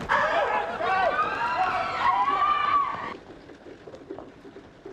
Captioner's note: screaming